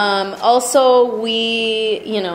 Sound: voiceover

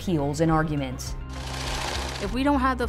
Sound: cash spooling sound

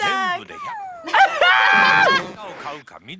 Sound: both laugh

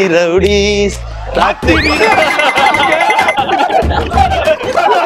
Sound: laughs

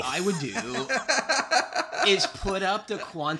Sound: laughter

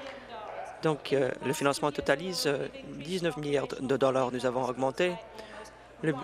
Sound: applause

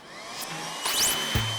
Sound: brrrm

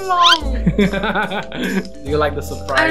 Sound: laughter

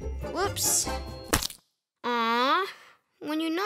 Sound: splat

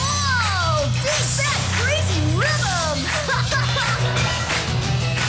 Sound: laughing

